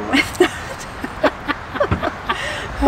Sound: both Laughing

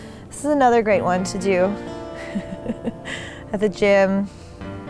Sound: laughs

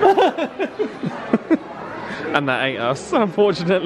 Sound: laughs; pretends to cry

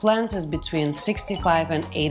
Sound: chimes twinkling

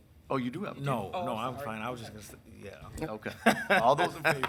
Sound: laughs

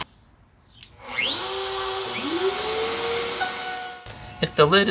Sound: router noise

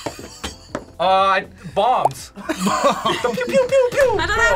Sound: laughs; laughs

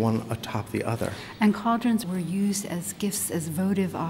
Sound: voiceover

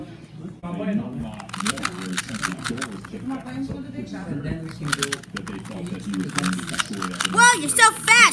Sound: cube turning

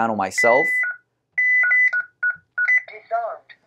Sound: panel beeping

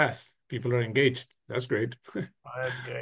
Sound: chuckles

